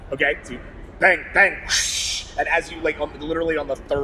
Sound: whoosh

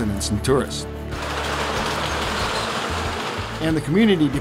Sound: wheels clink

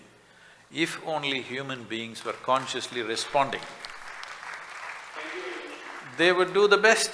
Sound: applause

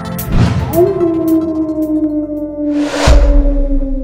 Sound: howl

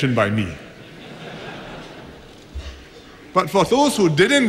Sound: laughter

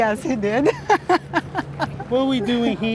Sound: laughs

